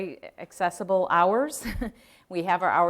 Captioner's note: chuckle